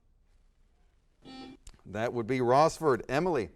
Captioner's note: buzzer sounds